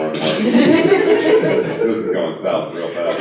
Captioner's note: laughter